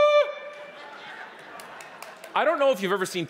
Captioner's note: audience laughing